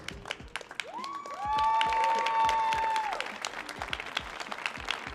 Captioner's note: audience applauding